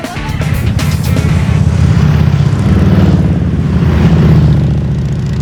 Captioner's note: motorcycle engine roaring